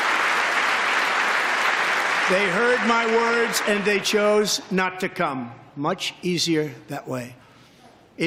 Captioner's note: applause